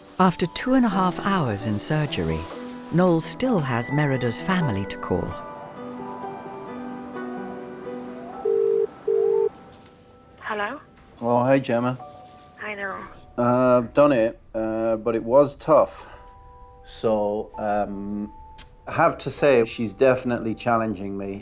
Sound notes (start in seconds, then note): 5.3 gentle music; 8.4 phone ringing